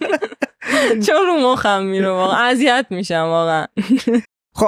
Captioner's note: laughs